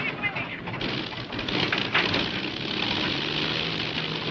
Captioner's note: engine sputtering